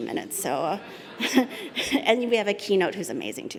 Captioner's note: laughter